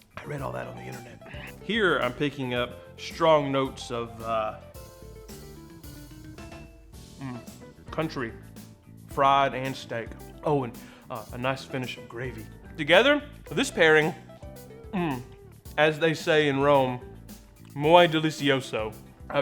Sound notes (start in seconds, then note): 0.0 easy listening music; 4.9 easy listening music; 7.1 moans; 14.9 moans